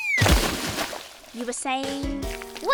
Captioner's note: splashing